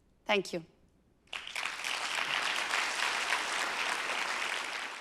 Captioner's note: audience clapping